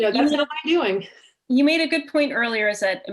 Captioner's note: chuckle